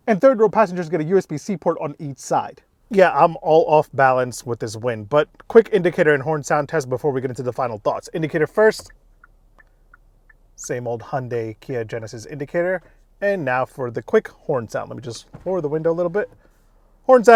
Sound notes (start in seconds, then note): 8.7 indicators clicking